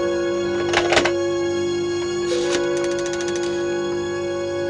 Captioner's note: eerie music; phone dialing